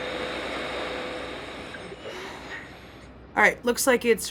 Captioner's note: static